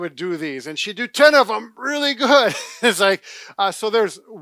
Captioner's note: laughs